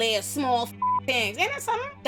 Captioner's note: beep